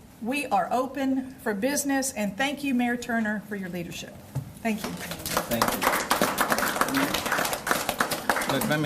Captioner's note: cheers and applause